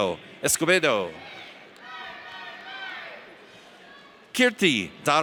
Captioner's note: audience cheers